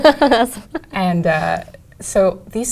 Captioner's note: laugh